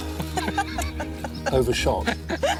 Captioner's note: laughing